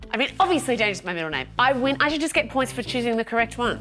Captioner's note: none